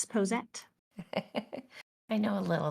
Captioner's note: laughs